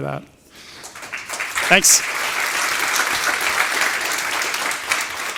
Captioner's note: applause